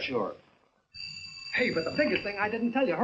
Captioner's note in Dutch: telefoon rinkelt